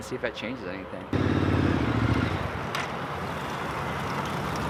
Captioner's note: sexy motorcycle sounds